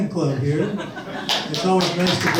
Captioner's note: audience laughs and claps